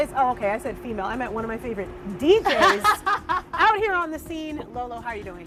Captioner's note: laughs